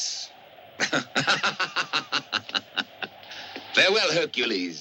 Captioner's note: laughs